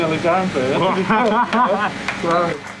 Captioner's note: chuckles; applauding